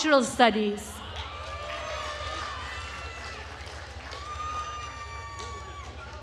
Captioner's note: attendees cheering and applauding